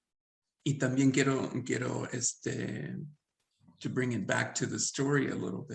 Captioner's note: speaking Spanish